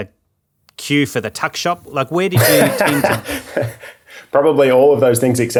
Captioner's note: laughing